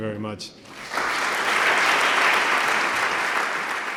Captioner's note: applause